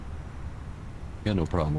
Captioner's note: radio chatter